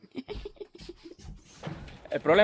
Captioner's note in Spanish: risitas